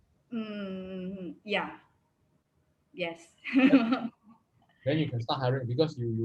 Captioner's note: laughs